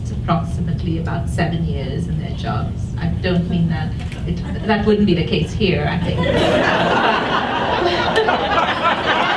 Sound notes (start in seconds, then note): 6.0 audience laughs